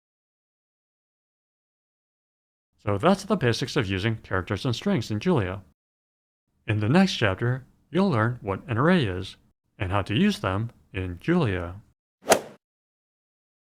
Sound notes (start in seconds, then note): 12.3 swoosh